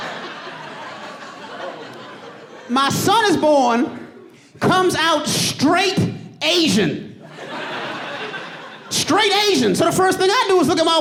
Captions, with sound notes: My son is born, comes out straight Asian. [AUDIENCE LAUGHING] Straight Asian. So, the first thing I do is look at my wife, like, "Is there something you wanna tell me?"